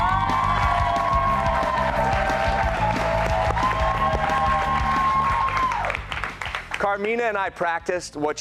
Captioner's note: cheers and applause